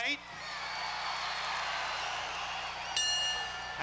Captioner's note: crowd cheers; bell dings